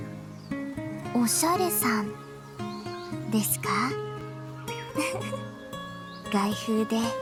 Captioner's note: giggle